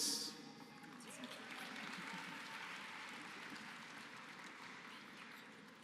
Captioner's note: applause